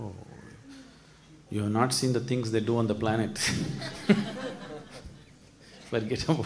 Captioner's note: laughs